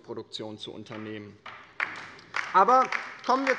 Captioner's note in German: Beifall bei der LINKEN